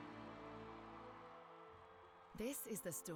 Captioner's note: people cheering